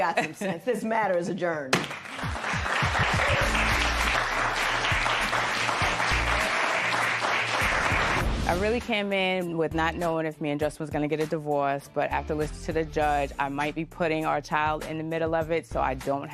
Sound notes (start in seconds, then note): 1.8 applause